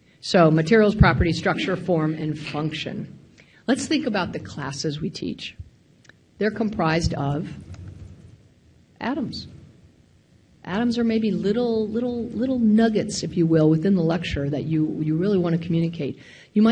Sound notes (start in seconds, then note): none